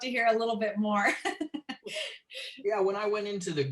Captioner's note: laughter